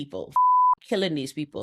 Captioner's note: beep